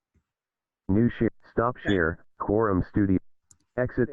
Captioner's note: automated voice